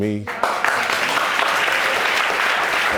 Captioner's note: audience applauds